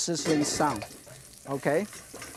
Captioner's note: oil sizzles